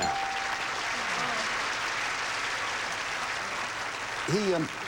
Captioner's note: audience applauding